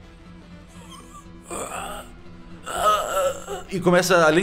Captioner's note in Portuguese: grunhidos